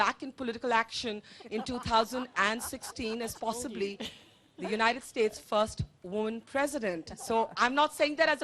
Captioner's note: laughter